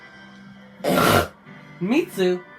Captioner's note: loud snort